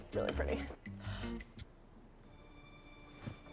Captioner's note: gasp; dramatic music